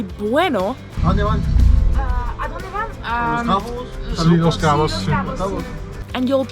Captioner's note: speaking Spanish